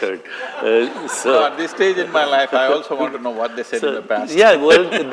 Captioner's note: laughter